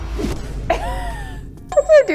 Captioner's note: laughing